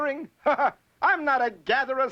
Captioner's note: laughs